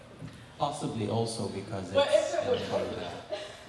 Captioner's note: overlapping chatter